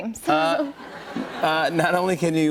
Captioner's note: laughter